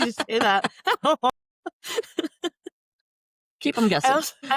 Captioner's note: laughter